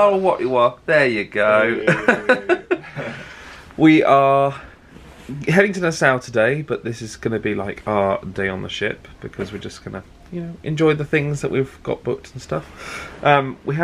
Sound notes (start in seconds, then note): 1.7 laughs